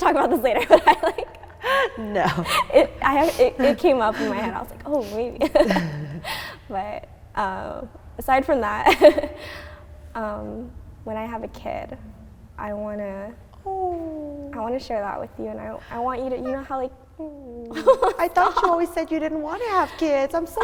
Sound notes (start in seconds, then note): 0.0 laughing; 16.4 cooing; 18.2 laughing